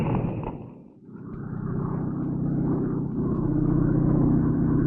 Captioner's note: airplane buzzing